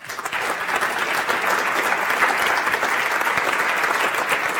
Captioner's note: audience applauds